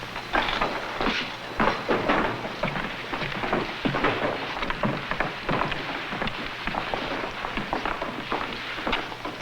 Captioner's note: footsteps